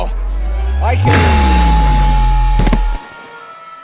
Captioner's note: irritating sine wave plays